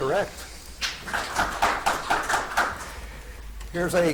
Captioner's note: audience claps